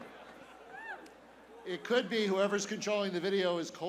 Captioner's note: laughter